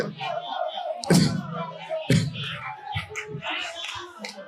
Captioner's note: chuckles